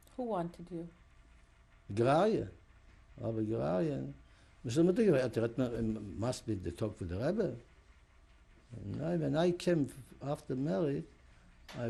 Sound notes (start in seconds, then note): 2.1 non-english; 4.5 yiddish speech